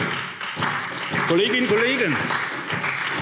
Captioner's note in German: Beifall SPD